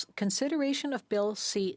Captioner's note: speaking French